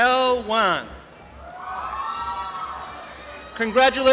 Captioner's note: applause and cheering